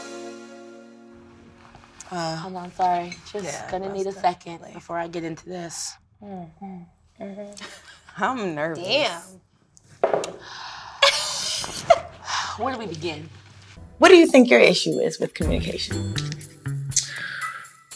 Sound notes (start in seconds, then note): 11.1 laughs